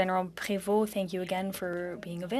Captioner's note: speaking French